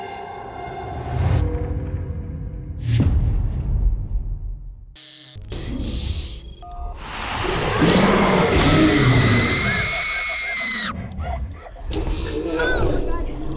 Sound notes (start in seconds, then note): 5.2 cellphone ringing; 7.7 girls screaming